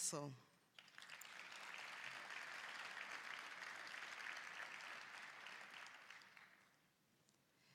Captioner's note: applause